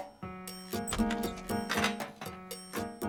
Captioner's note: door opening